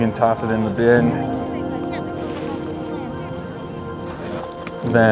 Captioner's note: volunteers chatter